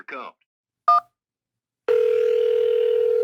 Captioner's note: phone ringing; phone beeps